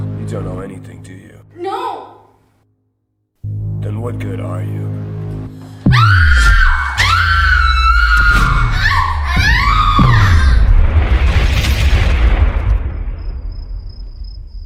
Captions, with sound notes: You don't know anything, do you? No. Then what good are you? (Pulsating wave. Screaming) (Whoosh) (Crickets chirping)